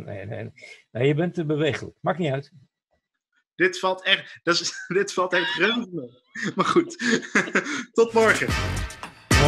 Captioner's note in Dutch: gelach